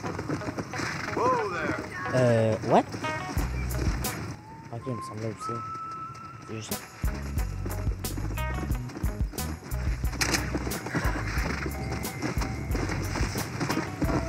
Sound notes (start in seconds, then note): 10.2 welcome sound